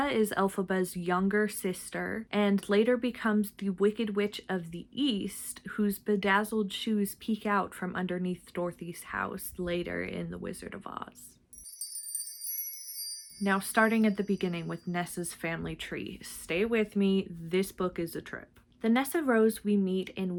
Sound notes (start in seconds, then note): 11.5 sparkle noise